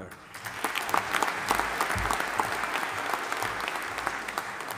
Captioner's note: audience applauding